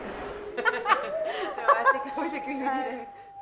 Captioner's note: laughing